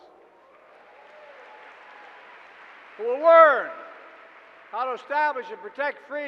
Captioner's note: applause